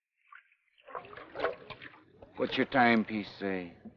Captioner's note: water swashes